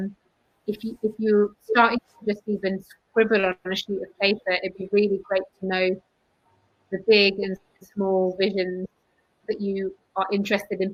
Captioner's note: erm